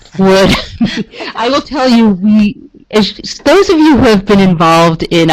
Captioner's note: laughs